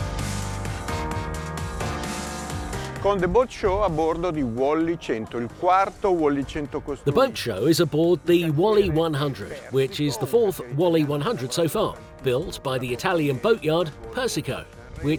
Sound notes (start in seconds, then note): 3.2 speaking in foreign language